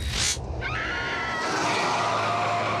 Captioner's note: woman screams